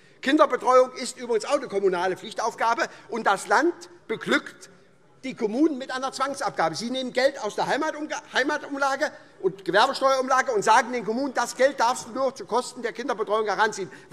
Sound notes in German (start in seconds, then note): none